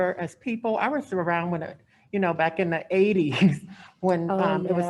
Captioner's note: laughs